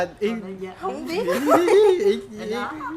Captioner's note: laugh